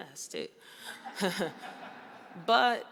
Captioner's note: audience laughs